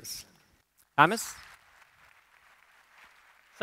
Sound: applause

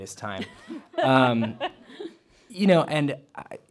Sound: laughter

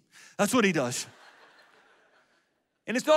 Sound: audience laughs

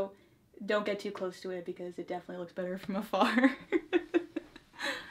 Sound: laughs

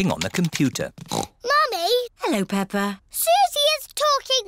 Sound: snorts

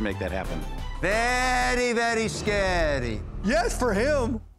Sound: Transylvanian accent

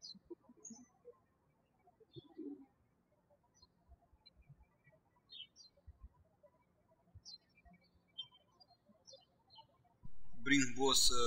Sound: birds chirping

